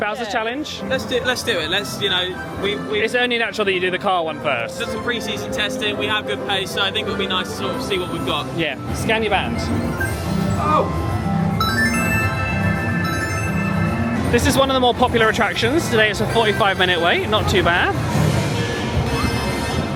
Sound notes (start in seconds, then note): 11.6 door chimes